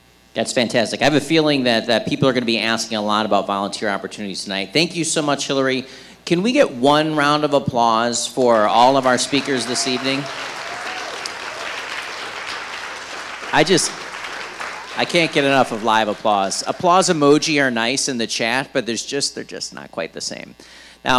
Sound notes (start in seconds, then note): 11.0 audience applauding